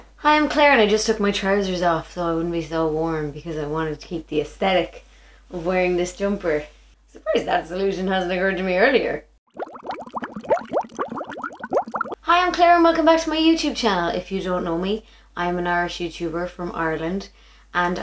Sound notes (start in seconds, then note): 9.4 liquid bubbling